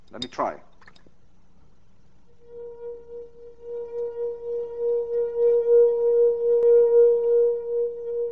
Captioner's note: plays high tone